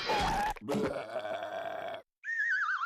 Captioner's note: burping